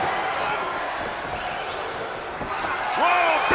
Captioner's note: spectators cheering